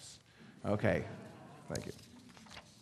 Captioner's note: audience laughing